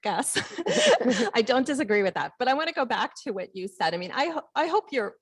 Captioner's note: laugh